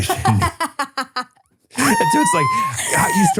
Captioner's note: laughs